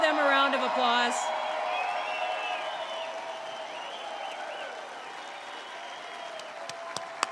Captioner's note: applause